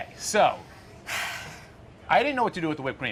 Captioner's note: sighs